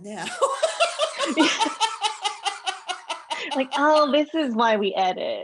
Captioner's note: laughter